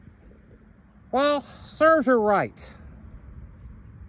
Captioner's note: normal voice